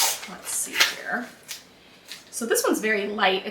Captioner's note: tape unwrapping